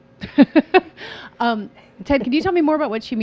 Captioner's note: laughing